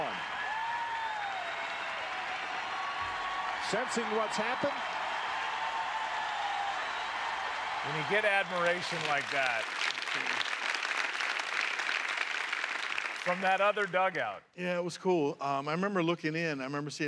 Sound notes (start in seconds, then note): 2.7 cheers and applause; 6.9 cheers and applause; 12.3 applause